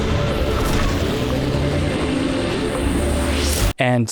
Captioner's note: upbeat music; engine revving